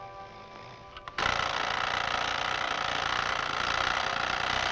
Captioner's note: alarm blaring